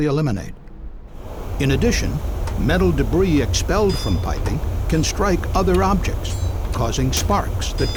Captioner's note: sound of metal on metal